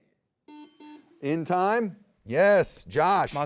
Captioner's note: buzzer beeps